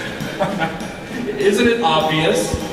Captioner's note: laugh